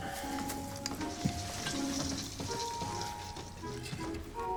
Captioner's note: ornaments rattling